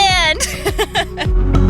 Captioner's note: laughing